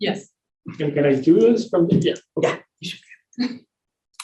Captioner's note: voice distorts